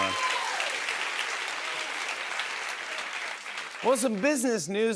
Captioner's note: cheers and applause